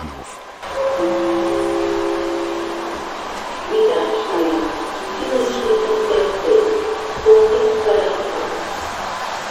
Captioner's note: gong and announcement